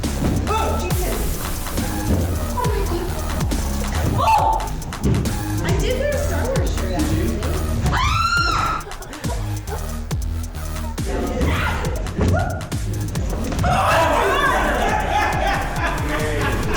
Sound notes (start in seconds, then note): 4.1 screams; 7.8 screams; 11.4 screams; 13.6 screams; 13.6 laughter